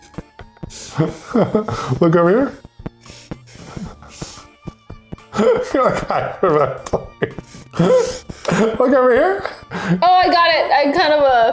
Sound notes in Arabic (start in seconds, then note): 5.3 يضحك بصوت عال